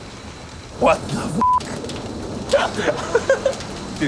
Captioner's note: chuckles